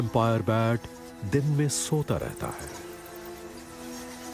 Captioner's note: bats screeching